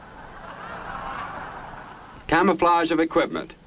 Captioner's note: laughing